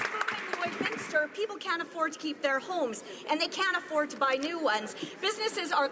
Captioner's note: some Applause